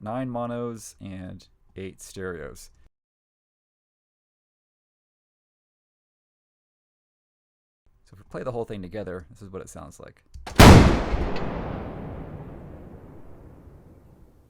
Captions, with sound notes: nine monos and eight stereos. So if we play the whole thing together, this is what it sounds like. (Bofors gunshots)